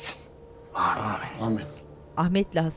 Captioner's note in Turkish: Hep bir ağızdan